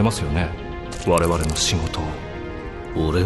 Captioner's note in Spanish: pasos sobre un charco